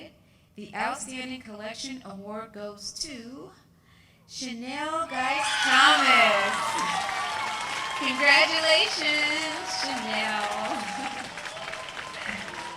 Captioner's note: applause